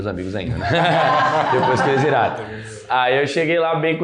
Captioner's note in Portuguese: risos